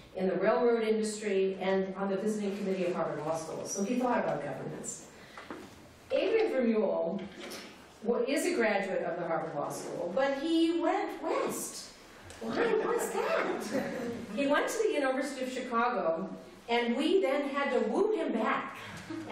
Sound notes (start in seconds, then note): 12.5 laughter